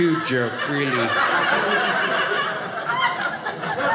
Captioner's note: audience laughing